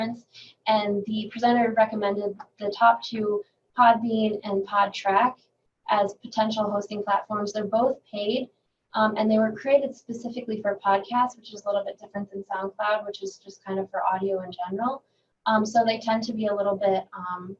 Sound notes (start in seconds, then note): none